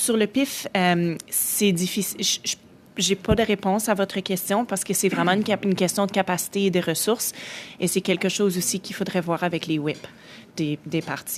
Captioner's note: speaking French